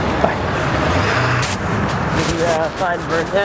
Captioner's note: traffic noise